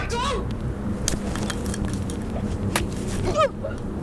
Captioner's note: slap smacking; Sarah grunting; punch smacking